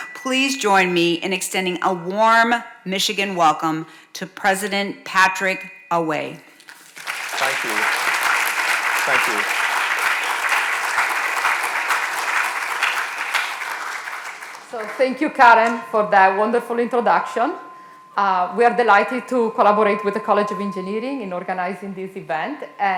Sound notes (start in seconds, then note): 6.7 audience applauding